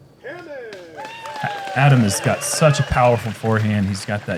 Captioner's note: applause